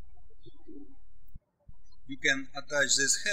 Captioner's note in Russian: птички щебечут